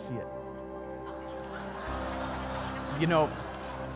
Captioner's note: congregation laughing